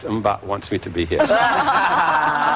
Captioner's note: laughter